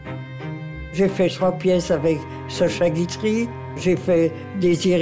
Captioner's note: French spoken audio